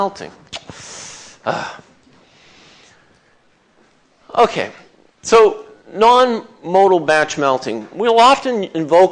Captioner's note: groans